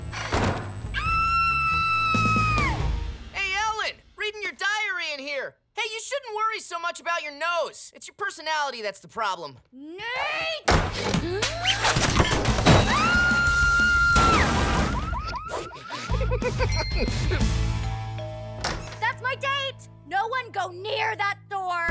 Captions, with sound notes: [screaming] Hey, Ellen, reading your diary in here! Hey, you shouldn't worry so much about your nose! It's your personality that's the problem. Nate! [gasping] [screaming] [car alarm blaring] [laughing] [doorbell ringing] That's my date! No one go near that door!